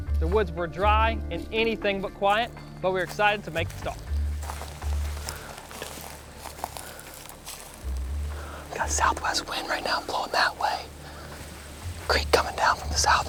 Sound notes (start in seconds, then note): 5.6 whispering